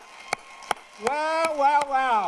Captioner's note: applause